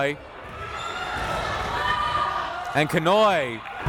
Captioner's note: crowd members shouting